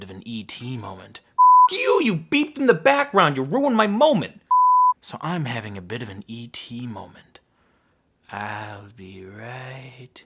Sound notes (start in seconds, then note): 0.9 ringtone; 4.5 SMPTE beep